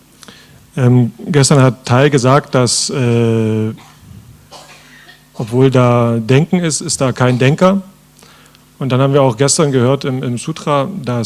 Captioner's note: German